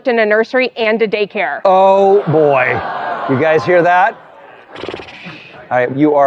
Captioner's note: audience gasping